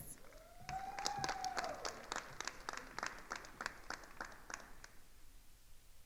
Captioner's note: attendees cheering and applauding